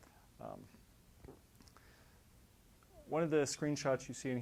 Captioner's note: pause